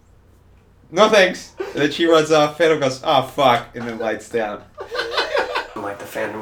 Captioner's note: laughing off camera